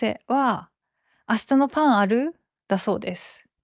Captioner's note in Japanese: 関西弁